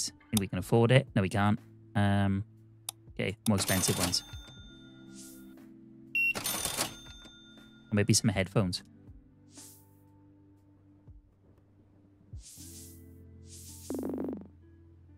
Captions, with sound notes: I think we can afford it. No, we can't. Okay, more expensive ones. (beeping) Maybe some headphones. (beeping)